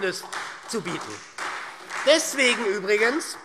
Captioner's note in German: Beifall SPD